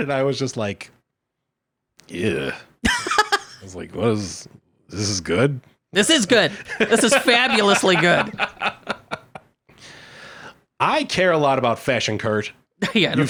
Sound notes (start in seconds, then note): 2.6 laughing; 6.5 laughing